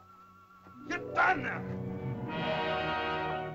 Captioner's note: soft music; Akhoba angrily speaks in caveman language; dramatic music